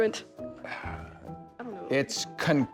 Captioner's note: host sighs